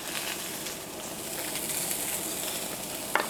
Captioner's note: sizzling